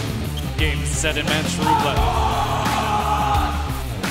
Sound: screams

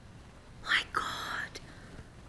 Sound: whispers

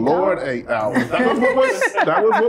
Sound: laughter

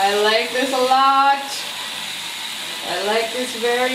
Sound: cleaning brush continues whirring

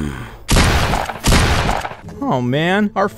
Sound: Roach grunting; gun shots firing

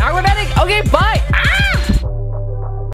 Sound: screams

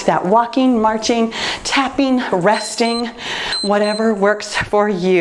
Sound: timer beeps

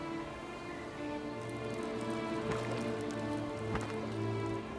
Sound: water dripping

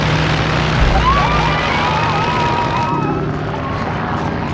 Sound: all cheering

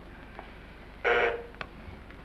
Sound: buzzer

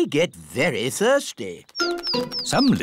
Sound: tweeting

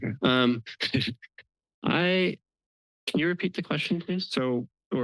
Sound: laugh

